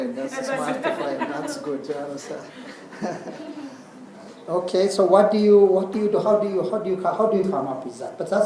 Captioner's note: laugh